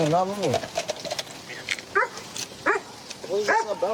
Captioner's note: dog barks